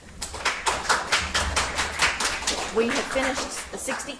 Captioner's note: audience applauds